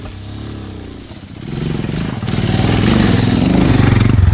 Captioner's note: motorcycle running